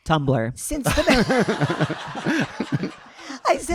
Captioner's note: audience laughing